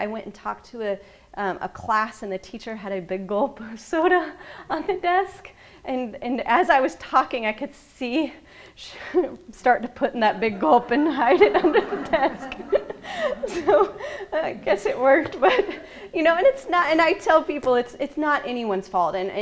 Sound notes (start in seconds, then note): 12.3 laughing